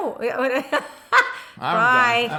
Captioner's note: laughing